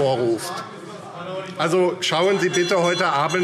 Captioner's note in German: Zurufe - Glockenzeichen